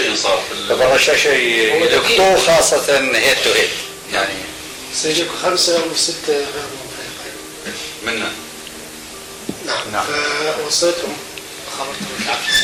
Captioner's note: the phone is still ringing